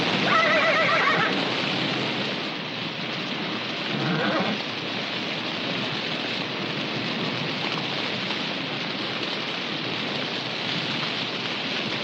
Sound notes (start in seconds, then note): 0.2 horse whinnies; 2.6 fire crackling